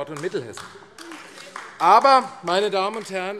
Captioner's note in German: Beifall AfD